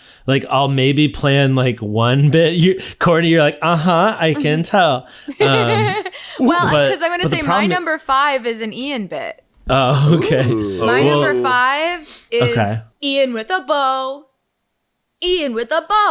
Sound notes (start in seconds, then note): 5.2 laughing; 9.7 chuckles